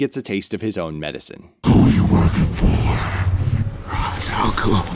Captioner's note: demonic voice